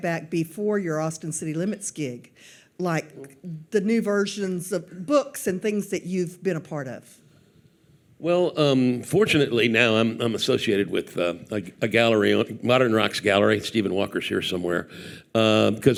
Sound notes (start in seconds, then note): none